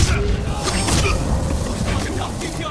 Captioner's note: grunting